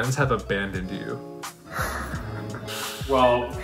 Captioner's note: nervous laugher